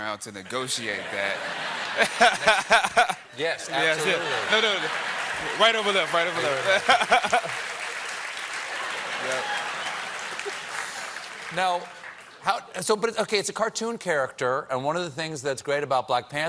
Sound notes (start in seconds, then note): 8.3 applause; 8.3 laughter